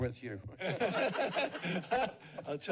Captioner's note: laughs